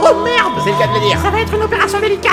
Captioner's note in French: imitation d'une voix de fille